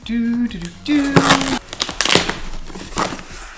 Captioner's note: humming